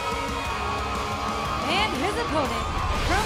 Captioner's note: cheers & boos